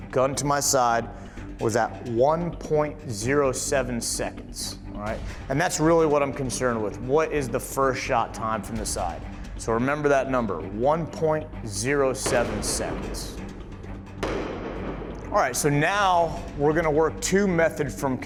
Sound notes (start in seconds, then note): 12.5 gun shooting